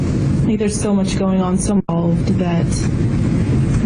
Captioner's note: audio skips